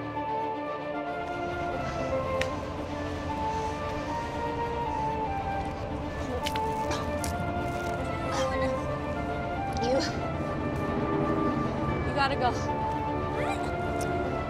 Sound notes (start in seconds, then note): 0.2 panting noises from running; 4.7 JUNE starts to vomit